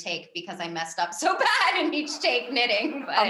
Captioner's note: giggles